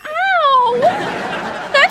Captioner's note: laughing